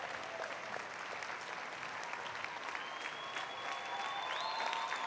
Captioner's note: applause